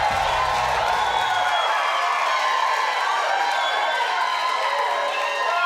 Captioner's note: audience cheers